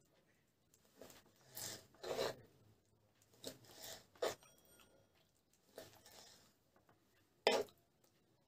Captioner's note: rings